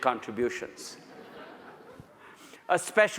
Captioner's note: audience laughs